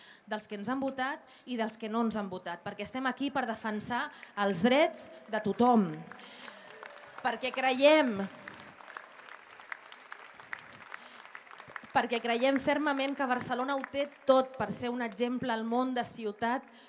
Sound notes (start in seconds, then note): 8.6 applause